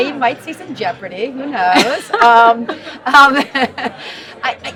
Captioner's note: laughs